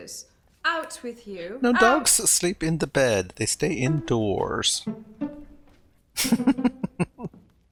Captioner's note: chuckling